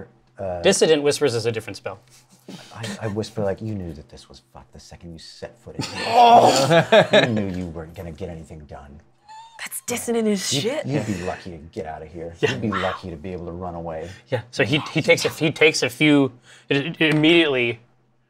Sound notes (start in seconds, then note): 5.8 laughter; 12.7 whispers